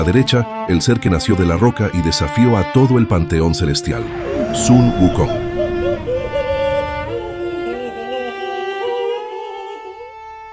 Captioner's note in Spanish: lloros